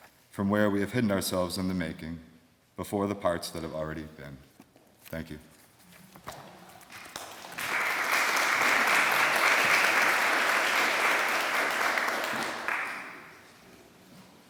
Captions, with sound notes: from where we have hidden ourselves in the making before the parts that have already been. Thank you. [APPLAUSE]